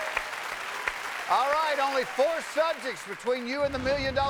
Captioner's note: cheers and applause